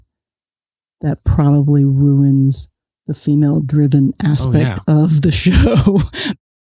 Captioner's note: guffaw